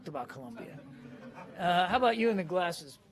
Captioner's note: laughter